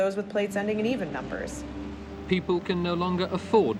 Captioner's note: soundbite of archived recording